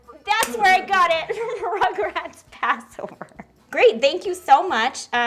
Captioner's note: laughs